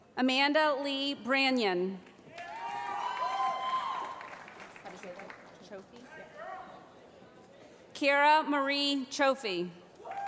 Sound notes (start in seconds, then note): 2.2 applause